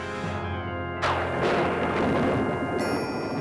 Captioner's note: thunder rumbles